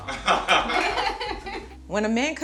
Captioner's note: laughing